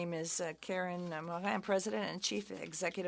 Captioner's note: speaking French